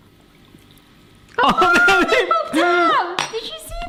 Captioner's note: laughs